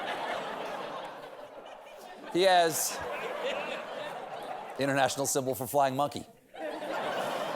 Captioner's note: laughter